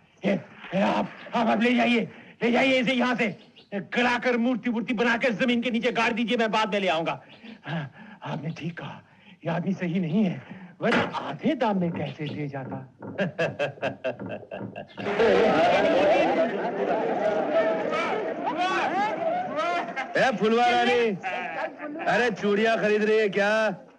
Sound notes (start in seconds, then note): 13.1 laughing